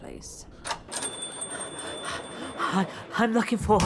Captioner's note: door opens, bell chimes